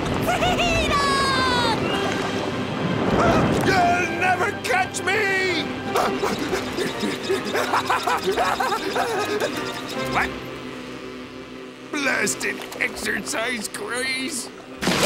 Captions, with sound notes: Freedom! You'll never catch me! [panting] What? Blasted exercise craze...